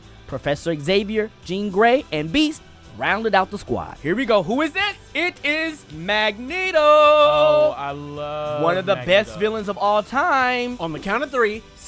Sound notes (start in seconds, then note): 5.7 singsong